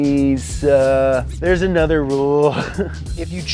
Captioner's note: chuckles